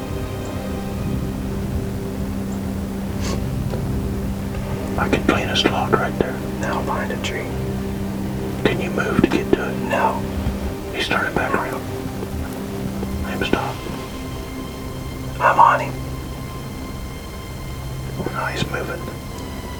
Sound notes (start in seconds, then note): 4.7 whispering; 8.8 whispering; 14.9 whispering; 18.3 whispering